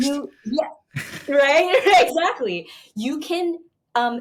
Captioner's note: chuckles